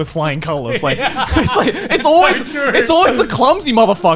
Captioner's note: laughs